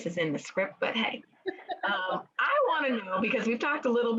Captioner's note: women laughing